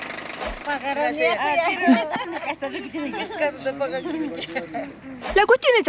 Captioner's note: women speak in kickwa